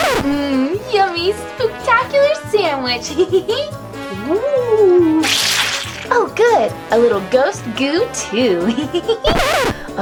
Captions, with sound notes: Mm, yummy spooktacular sandwich. (giggles) (ghostly sound, then the sound of sauce being squeezed out) Oh good, a little ghost goo too. (giggles)